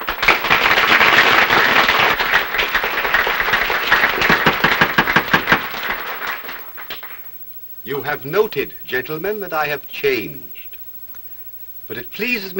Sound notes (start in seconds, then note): 0.0 applause; 4.4 gavel bangs